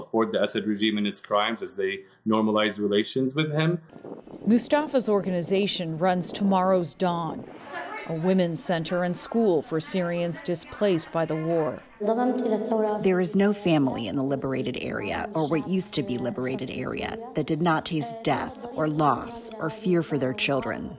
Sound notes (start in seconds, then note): 12.9 through translator